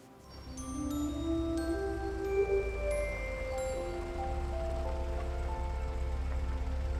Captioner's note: bright music; engine humming